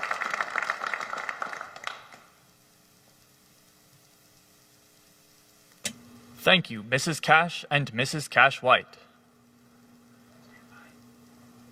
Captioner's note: applause